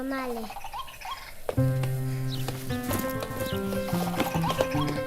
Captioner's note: birds chirping; upbeat music